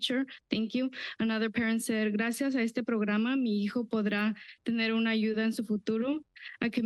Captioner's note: foreign language